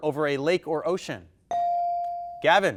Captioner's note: bell dinging